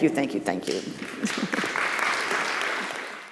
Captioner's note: audience applauding